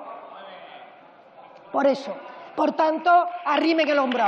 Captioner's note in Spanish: Aplausos